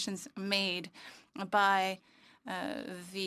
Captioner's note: speaking French